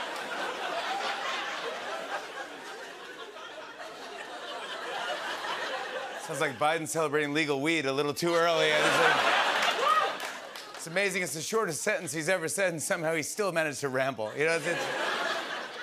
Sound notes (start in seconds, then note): 8.3 laughter